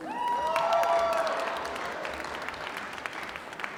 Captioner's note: applause